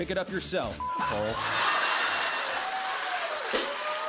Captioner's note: laughter